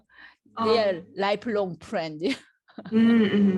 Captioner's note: laughs